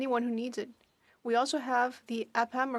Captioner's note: speaking French